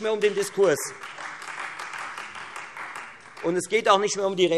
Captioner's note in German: Beifall Freie Demokraten